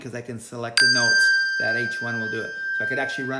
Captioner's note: bell rings